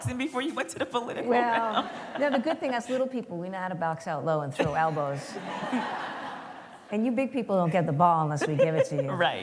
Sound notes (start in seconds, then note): 4.6 laughter